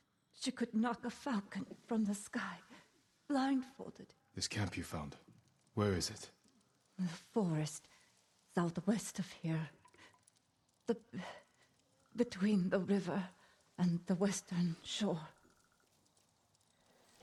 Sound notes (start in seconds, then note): none